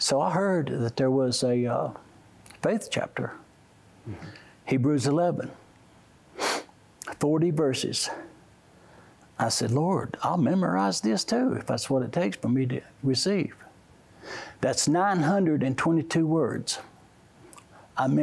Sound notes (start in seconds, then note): 6.4 sniffs